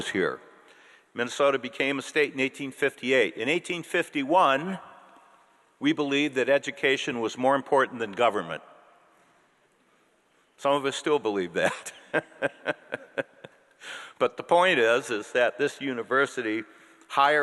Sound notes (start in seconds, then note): 12.0 laughs